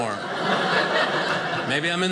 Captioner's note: audience laughing